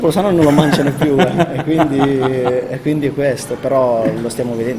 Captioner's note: laughing